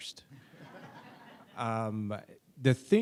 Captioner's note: audience laughs